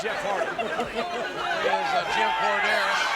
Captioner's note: audience chattering